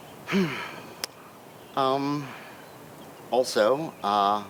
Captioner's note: Lucky sighs